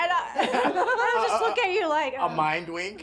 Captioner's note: laughing